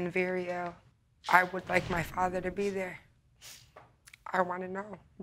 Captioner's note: sniffles